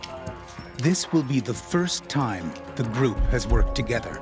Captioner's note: voiceover